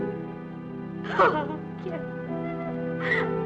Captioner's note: crying